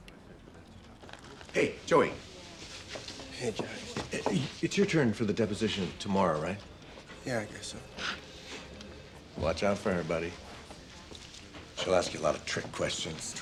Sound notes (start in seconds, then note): 7.9 gasps